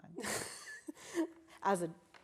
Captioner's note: both laughing